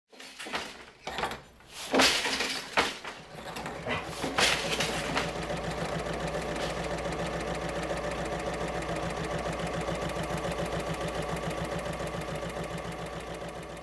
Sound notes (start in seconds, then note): 3.2 sewing Machine Sounds